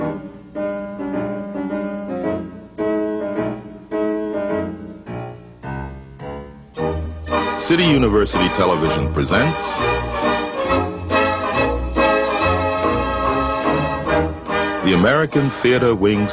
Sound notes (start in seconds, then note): none